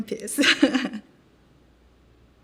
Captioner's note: chuckles